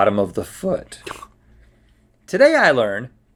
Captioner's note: scoffs